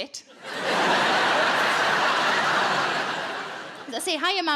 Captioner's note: audience laughing